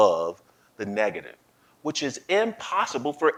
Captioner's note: none